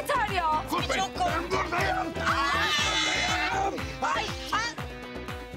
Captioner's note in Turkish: Bağırıyorlar